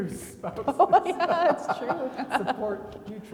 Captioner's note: laughing